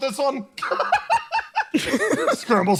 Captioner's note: laugh